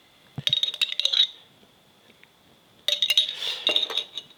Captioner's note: spoon scraping